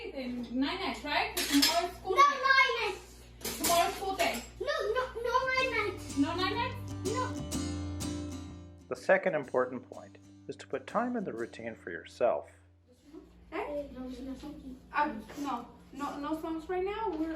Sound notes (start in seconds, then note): 8.1 acoustic guitar; 13.7 child murmuring